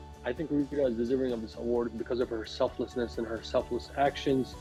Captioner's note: none